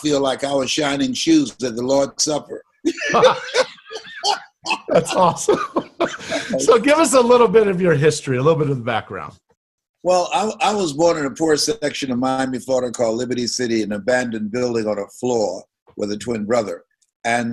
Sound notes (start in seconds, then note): 2.8 both laughing